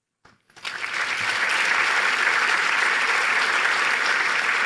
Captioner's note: applause